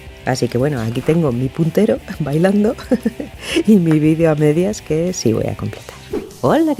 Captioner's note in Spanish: risa